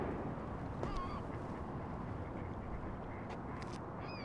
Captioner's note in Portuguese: gaivotas chorando